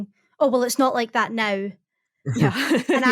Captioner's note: laughing